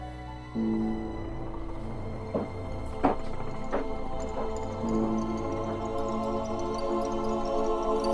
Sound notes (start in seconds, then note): 2.3 footsteps clack; 2.4 dark music continues